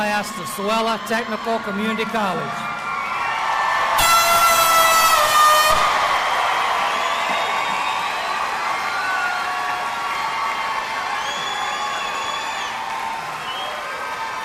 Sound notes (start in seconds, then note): 2.7 audience cheering and applauding; 3.9 air horn sounding; 6.0 audience cheering and applauding